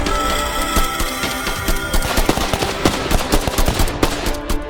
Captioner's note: beast shrieks; gun blasting